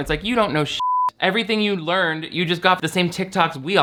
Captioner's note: beep